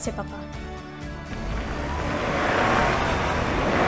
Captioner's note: approaching engine noise